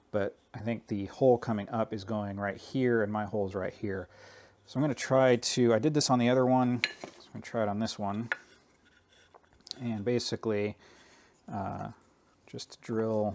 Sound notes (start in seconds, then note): none